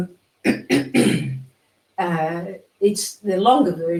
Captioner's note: clearing throat